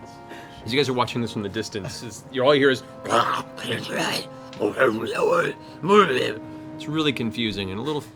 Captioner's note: guttural noises